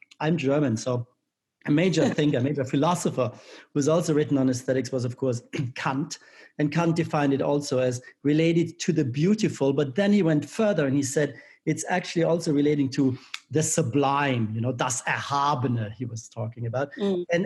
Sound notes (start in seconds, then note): 14.9 speaking in foreign language